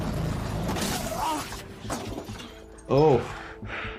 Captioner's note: tuk-tuk slams